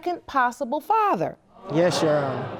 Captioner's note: audience exclaims